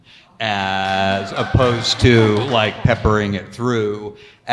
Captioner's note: audience cheer